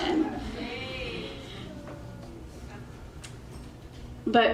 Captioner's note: crowd hollers